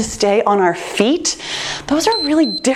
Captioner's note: timer beeps